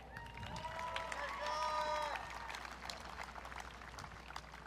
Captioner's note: audience cheering